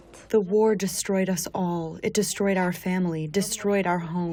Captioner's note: through translator